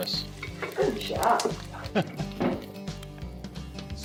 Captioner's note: laughs